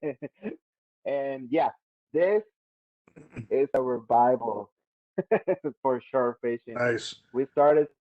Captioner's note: laughs